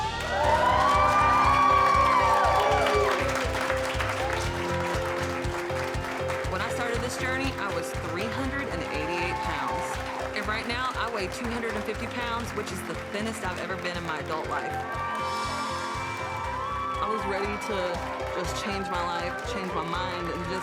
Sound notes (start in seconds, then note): 0.2 cheering; 14.9 cheering